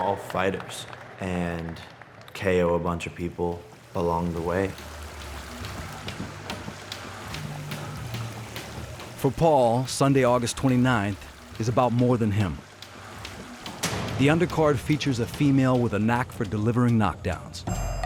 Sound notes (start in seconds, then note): 6.4 water splashing; 9.0 jump rope clacking